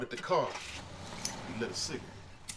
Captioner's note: car engine revving